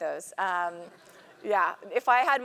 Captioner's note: laugh